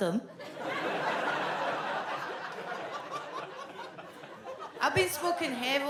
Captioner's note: audience laughs